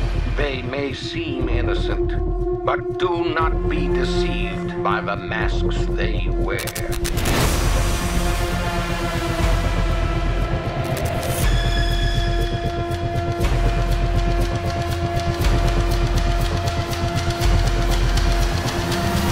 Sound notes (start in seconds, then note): 6.5 static; 9.4 eerie music; 10.8 static; 14.5 music intensifies